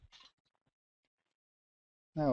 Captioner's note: pause